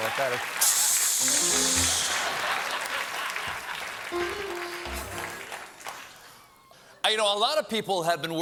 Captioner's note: piano riff; stephen making hissing sound; laughter